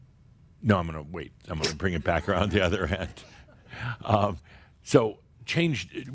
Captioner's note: some chuckles